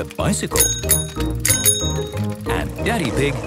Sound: bicycle bell dinging

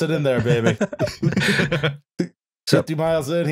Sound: laughter

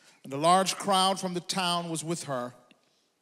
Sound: none

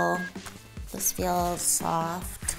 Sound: bell dings

